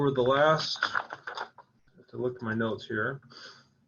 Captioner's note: papers rustling